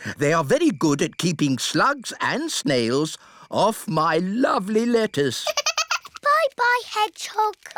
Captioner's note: giggles